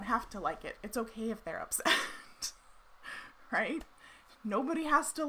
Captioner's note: laughs